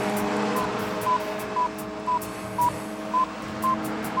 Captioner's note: bomb beeping